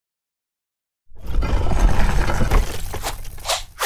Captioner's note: stone scraping